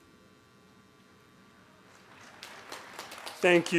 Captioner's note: applause